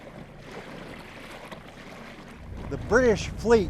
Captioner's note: water splashes